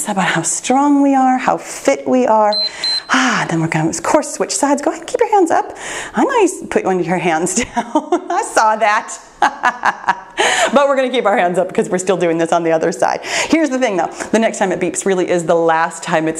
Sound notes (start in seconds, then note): 2.5 timer beeps; 7.5 laughs